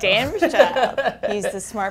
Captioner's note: laughing